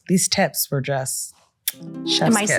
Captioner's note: lips smacking